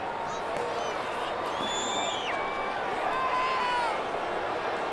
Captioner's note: crowd boos